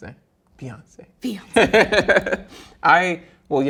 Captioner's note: laughs